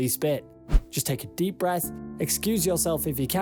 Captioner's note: screen swishes